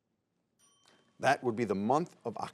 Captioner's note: timer dings